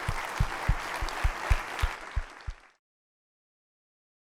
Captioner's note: applause